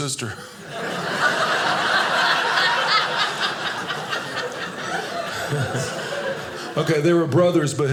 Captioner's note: audience laughing